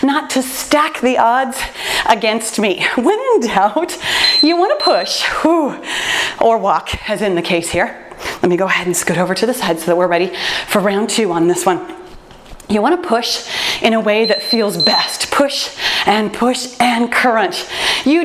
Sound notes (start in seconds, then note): 4.1 timer beeps; 14.2 timer beeps